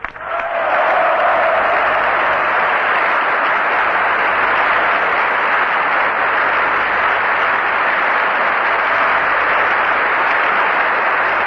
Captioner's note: applause